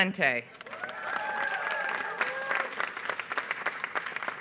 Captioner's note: applause